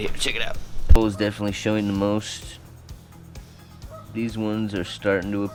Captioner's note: geese honking